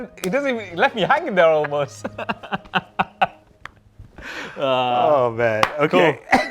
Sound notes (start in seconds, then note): 1.9 they chuckle